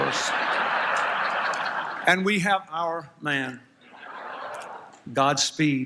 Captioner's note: laughter